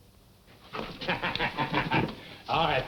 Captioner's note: Geoff laughs